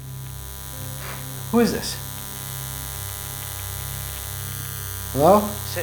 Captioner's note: line noise